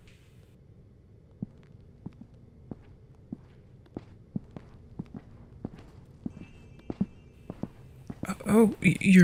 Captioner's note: footsteps as Zephyr walks away, Listener follows